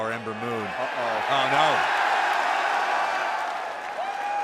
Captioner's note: cheers & applause